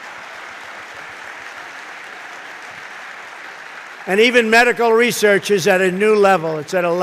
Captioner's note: applause